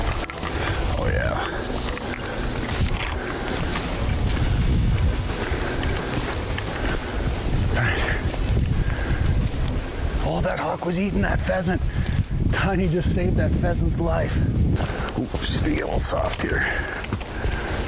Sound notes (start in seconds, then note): 3.0 grass rustling; 3.0 rock music